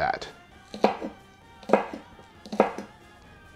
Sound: chopping

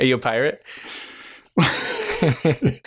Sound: laughter

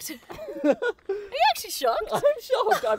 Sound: laughing

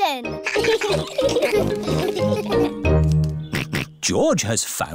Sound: all laugh; snorts

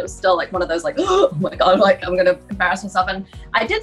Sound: gasps

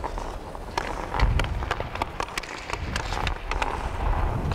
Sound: stick hitting

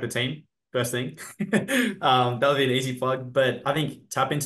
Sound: laughs

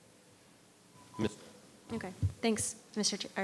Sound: audio glitch

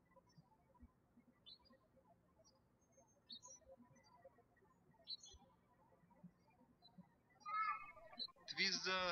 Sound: birds chirping

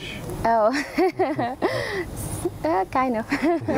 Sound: laughter

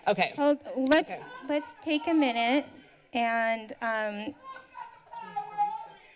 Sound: protester shouting

